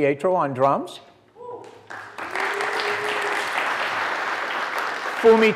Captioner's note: applause